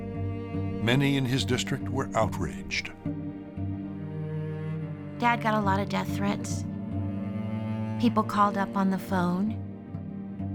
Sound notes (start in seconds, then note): none